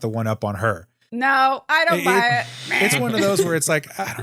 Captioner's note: buzzer